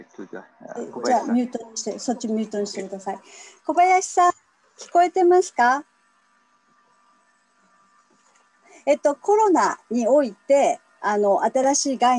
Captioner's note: speaks Japanese